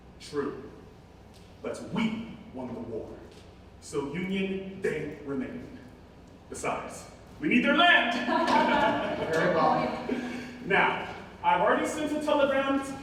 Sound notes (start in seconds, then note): 8.2 laughing